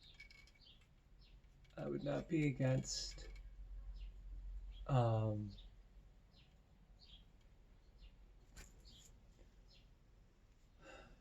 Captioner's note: sigh